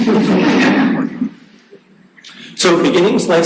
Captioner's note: audience laughing